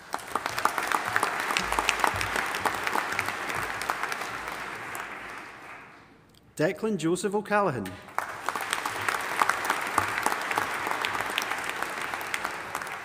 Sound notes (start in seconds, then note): 0.0 audience applauding; 8.0 audience applauding